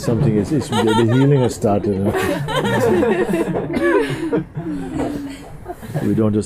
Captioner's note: laughter